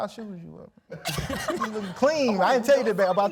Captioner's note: laughing